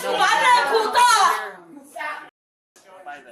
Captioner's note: speak in Foreign language